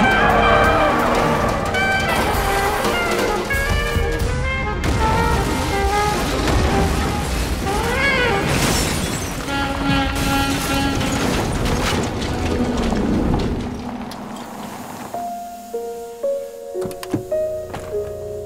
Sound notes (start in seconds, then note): 4.9 car crashing; 15.2 somber piano music